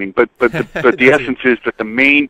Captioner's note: laughs